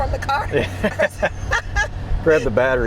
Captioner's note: laughing